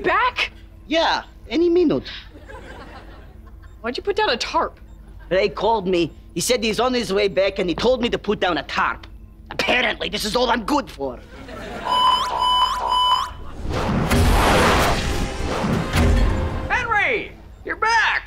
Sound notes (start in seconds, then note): 11.7 alarm sounding